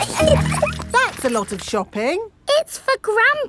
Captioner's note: laughing